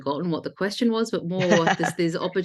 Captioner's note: laughs